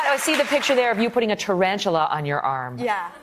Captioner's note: applause